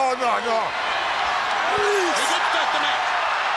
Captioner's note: crowd cheering; wrestler vocalizing